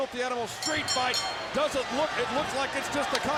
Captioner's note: bell rings